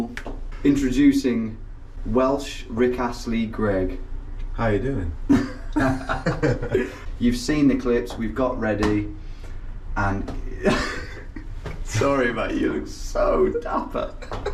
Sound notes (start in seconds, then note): 5.3 laugh; 10.5 laughs